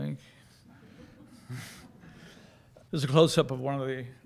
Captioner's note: audience laughing